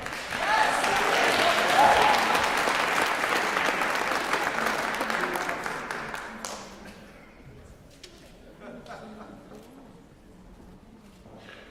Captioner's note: applause